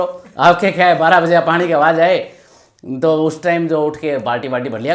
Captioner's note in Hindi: नाक से की जाने वाली आवाज़